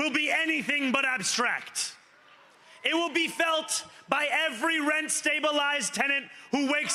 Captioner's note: cheering; cheering